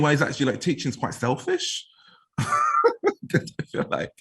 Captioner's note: laughs